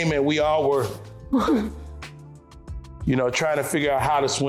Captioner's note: shivering